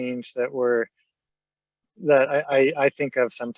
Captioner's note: stammering